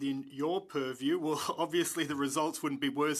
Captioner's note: speaking French